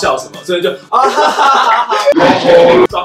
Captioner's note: laugh